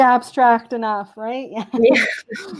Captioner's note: chuckle